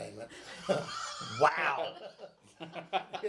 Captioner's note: men laugh